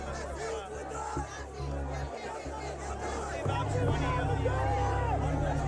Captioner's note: crowd chanting and shouting